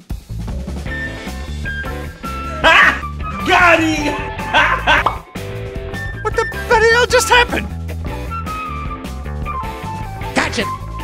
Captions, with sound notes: Hah! GOT HEEM HA HA- *pop * What the bloody hell just happened? GOTCHA-